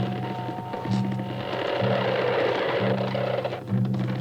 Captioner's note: cart wheels creaking louder